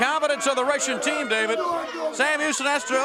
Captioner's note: crowd cheering